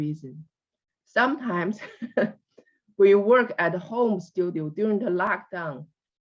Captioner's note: laughs